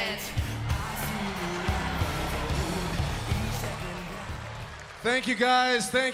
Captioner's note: crowd cheering